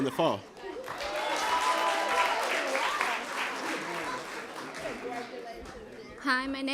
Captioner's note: applause, congratulations